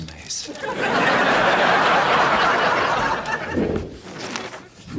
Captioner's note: audience laughs